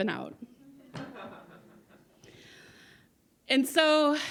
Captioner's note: audience laugh